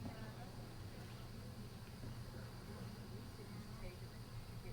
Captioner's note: couple chattering